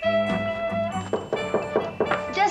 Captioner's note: knock on door